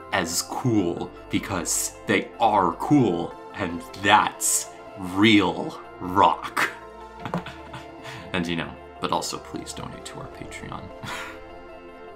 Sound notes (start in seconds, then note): 7.2 giggling lightly; 9.3 mutters sheepishly; 11.6 laughs